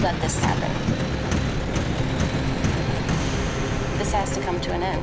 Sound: film reeling

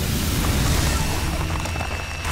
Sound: crackling

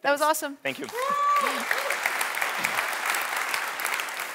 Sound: audience applauding

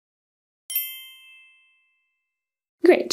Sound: bells chiming

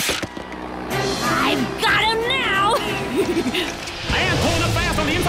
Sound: chuckling

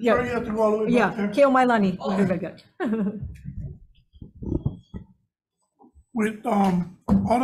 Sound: chuckles

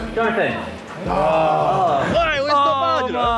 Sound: JJ and VIK sigh

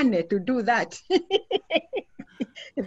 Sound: laughs

